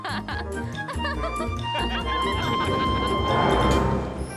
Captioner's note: laughing